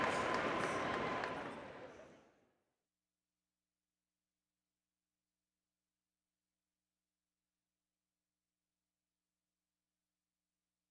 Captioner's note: applause